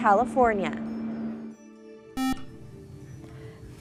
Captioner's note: buzzer